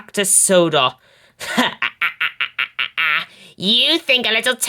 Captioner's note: D199/Spamcan laughs